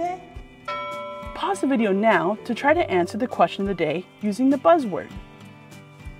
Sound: ding

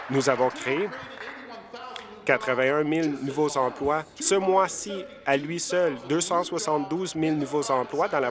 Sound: applause

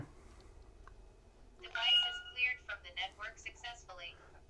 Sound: digital voice

